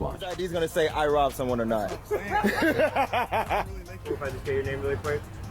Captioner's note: laughs